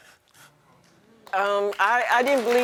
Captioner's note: audience applauding